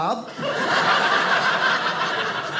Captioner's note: audience laughing